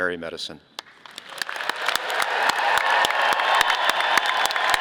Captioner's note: audience applauding